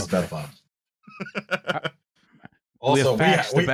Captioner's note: laughs